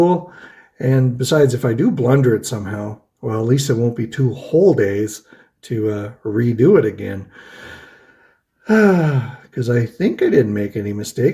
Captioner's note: sighs